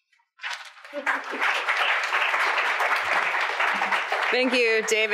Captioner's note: audience applauds